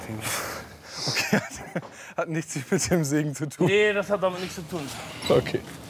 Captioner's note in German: lacht